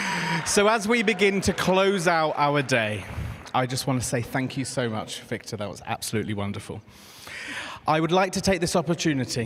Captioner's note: applause